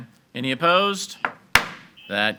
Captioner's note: gavel bangs